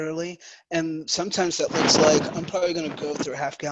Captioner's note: microphone shuffles